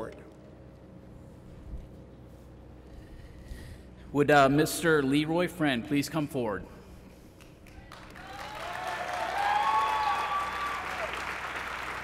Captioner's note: applause